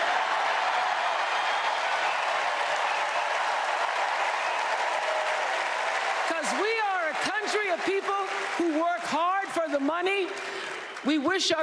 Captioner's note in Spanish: Aplausos